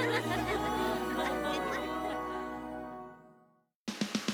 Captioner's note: laughter